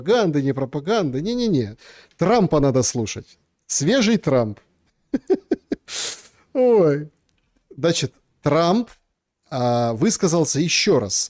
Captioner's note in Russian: смех; фыркает